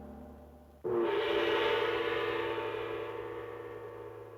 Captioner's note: gong chiming